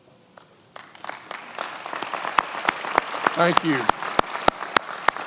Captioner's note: many applauding